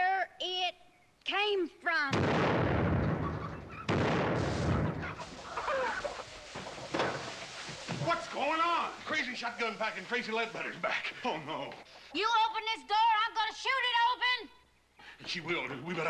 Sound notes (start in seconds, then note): 1.9 gunshot; 4.6 chickens cackling